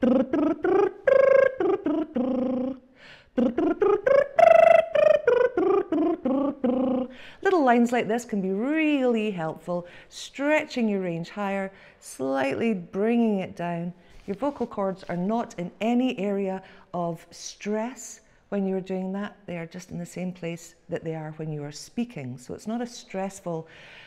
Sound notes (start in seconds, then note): 0.0 lip tremble arpeggio; 3.3 lip tremble dominant 7th